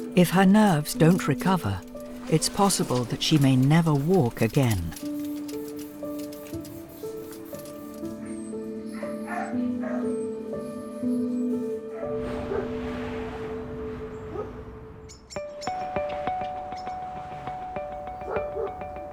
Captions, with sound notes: If her nerves don't recover, it's possible that she may never walk again. (Ruby whimpers) (bright music)